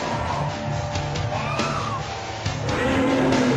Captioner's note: screaming; dinosaur roaring